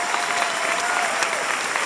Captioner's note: applause and cheers